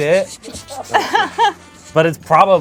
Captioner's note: laughs